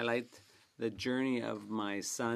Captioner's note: speaking French